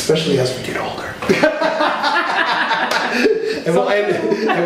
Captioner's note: both laughing